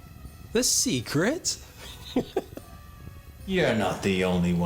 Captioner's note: laughs